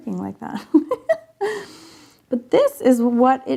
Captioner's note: laughing